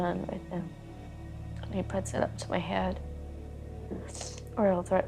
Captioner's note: sniffles